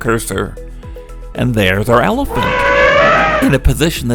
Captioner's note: sound of elephant trumpeting